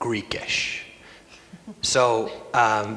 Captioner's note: laughs